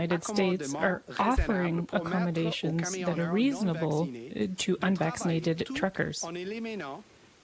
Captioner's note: speaking French